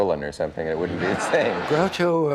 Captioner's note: audience laughs